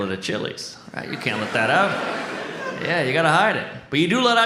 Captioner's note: audience laughs